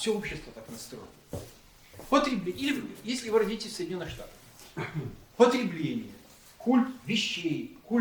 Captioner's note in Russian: откашливается